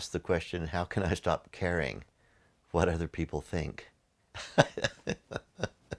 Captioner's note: laughs